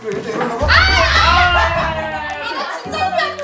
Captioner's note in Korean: 비명